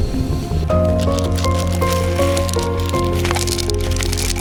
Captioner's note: crinkling sound